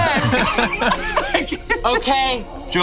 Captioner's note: group laughs